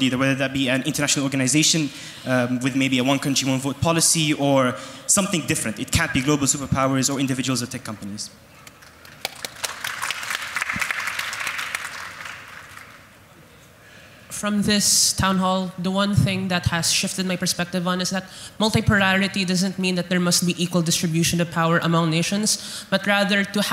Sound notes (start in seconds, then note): 8.8 audience applauds